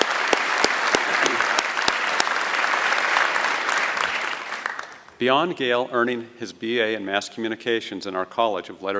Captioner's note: applause